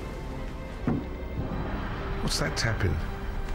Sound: knocking on boat

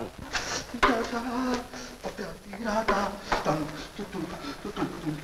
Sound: humming

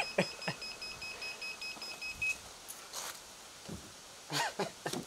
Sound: machine beeping

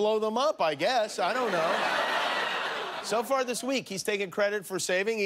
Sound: laughter

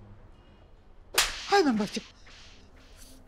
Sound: slapping

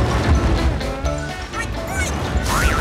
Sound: oinking

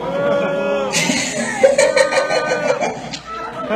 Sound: laughing

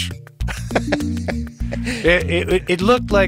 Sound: chuckles

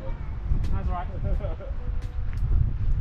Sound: laughs

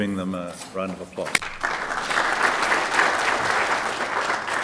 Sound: applause

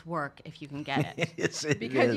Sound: laughs

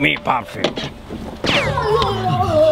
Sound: lazer zaps loudly

